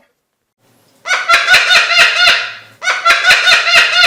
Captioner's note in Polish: śmiech papugi